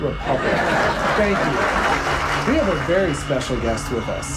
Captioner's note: audience laugh and applaud